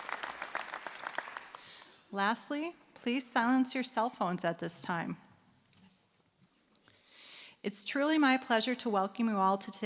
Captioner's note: applause